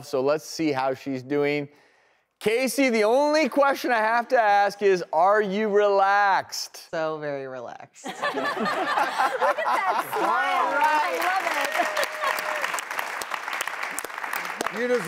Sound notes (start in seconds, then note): 8.1 audience laughs; 12.2 audience applauds